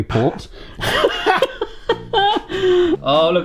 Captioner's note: laughs